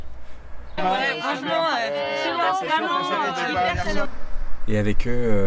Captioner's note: hubbub